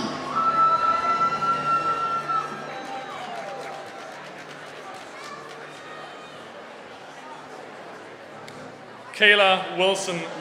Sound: applause

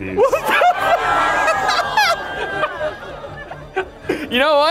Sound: laughing; audience groaning

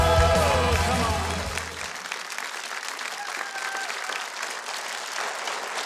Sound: audience clapping

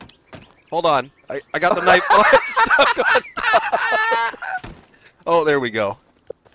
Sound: hysterical laughter

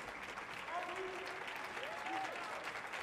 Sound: audience member cheers

